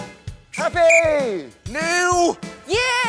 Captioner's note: whistle blows